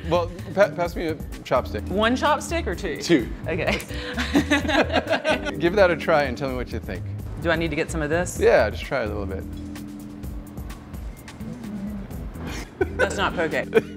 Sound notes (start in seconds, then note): 3.7 both laugh